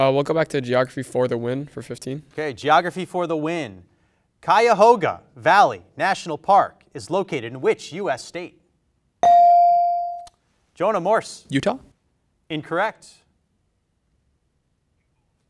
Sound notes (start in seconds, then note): 9.2 bell rings